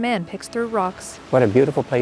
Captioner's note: tide sloshing